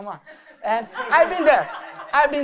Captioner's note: laughter